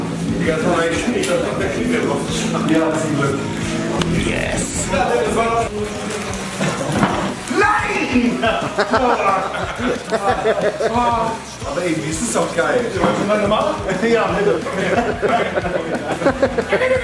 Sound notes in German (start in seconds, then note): 8.6 Gelächter; 14.7 Gelächter